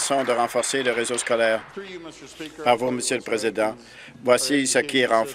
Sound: applause

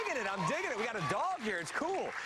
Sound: cheers and applause

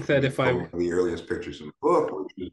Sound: speaking over

